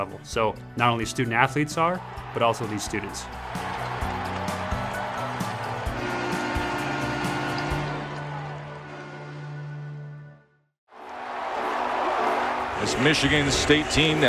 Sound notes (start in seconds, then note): 3.8 spectators cheering; 5.8 horn blaring